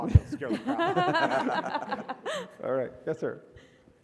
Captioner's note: laugh